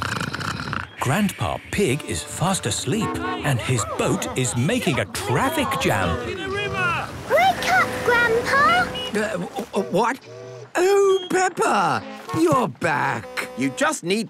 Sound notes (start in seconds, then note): 0.2 snoring; 7.0 all shouting